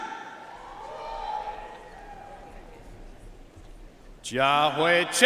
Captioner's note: audience cheering and applauding